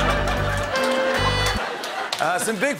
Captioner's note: laughter and applause